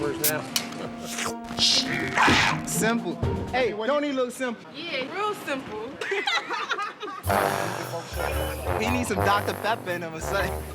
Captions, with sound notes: now. Simple. Hey, don't he look simple? Yeah, real simple. [laughter] He needs some Dr. Pepper in him or something.